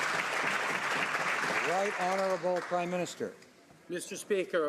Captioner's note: some Applause